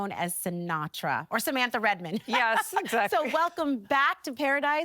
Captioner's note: laughing